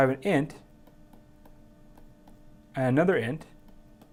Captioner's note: tapping